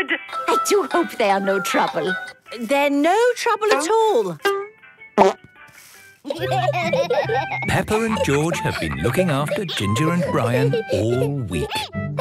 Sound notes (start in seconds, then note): 6.2 laughter